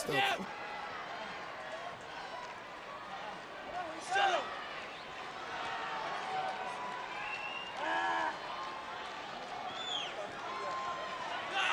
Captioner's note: applause